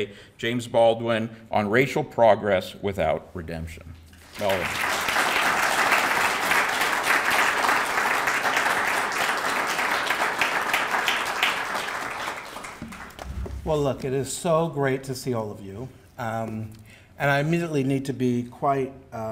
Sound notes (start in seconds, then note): 5.4 audience applauding